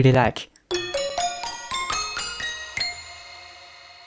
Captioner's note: bell sounds